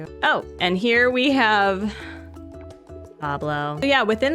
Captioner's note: sigh